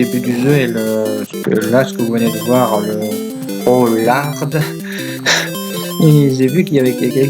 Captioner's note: laugh